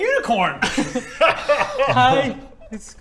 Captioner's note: pity laugh